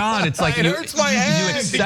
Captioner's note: laugh